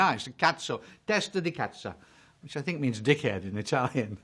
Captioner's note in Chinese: 義大利文